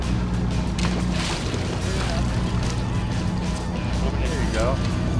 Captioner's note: fish splashing water